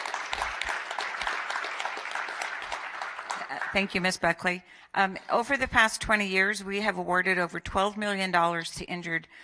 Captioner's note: applause